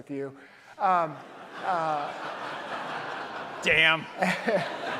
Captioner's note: audience laughs